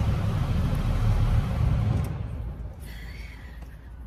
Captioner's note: a click and then fan noise fades out